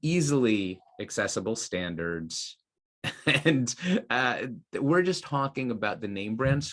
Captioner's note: laughs